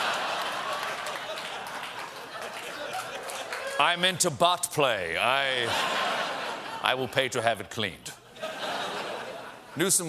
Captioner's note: laughter